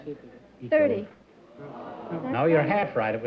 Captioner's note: audience disappointed